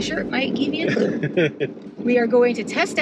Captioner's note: laughs